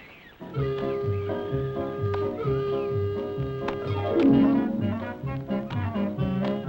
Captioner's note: birds chirping; upbeat music